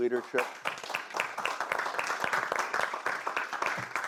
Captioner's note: audience applause